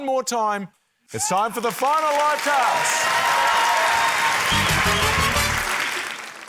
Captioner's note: cheering, applause